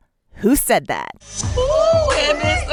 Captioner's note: soundbite of tv show, "the real housewives of atlanta"